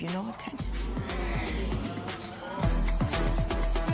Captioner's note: spectators murmur